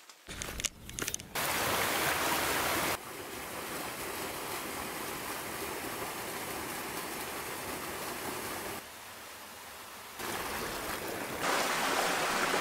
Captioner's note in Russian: шум воды